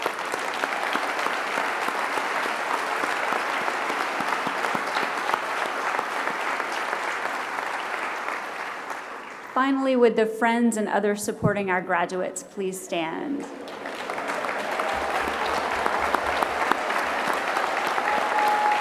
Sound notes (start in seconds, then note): 0.0 applause